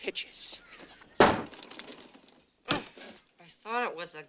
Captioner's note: bangs